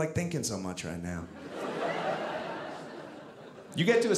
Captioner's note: audience laughing